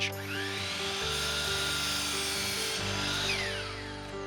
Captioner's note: saw whirs